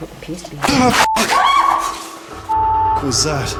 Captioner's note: loud thumping; beeping; girls scream